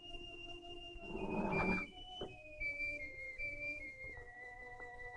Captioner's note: shade scraping